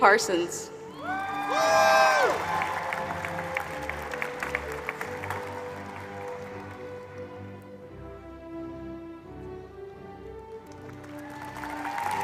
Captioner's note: applause